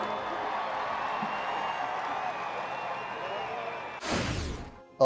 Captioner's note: crowd cheering